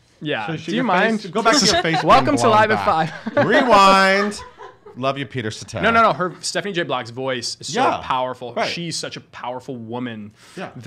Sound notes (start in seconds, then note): 3.5 laughing